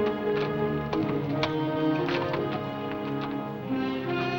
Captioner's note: thumping